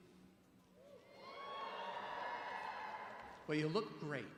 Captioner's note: crowd cheering